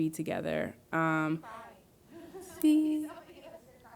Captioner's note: laughs